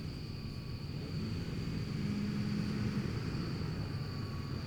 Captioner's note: car revving